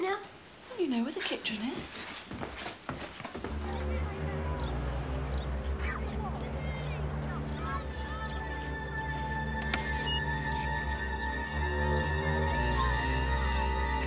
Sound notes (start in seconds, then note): 4.1 gloomy orchestra music; 9.6 clicks and beeps